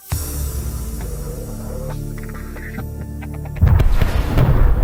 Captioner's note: gaming sound